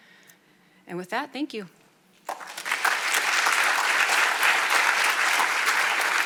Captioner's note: audience applauding